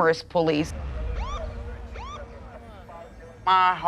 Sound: siren chirps and police radio chatter

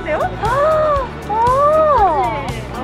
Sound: exclamation

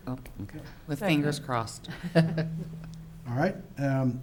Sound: giggles

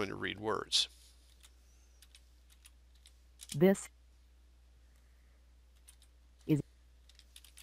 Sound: sound of typing and Jaws reading

